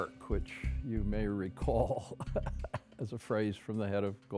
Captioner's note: laughs